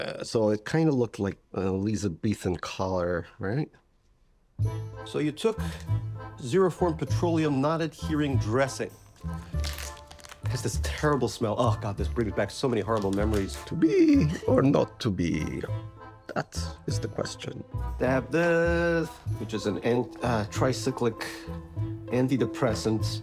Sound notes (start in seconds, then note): 4.6 light orchestral music; 9.0 sack crackling